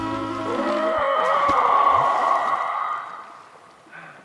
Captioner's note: relaxed music playing; rattling shriek